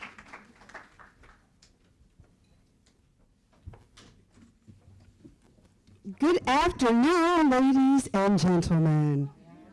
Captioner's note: applause